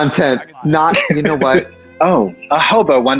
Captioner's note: laughs